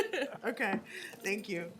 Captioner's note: laughter